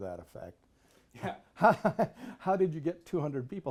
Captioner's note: laughs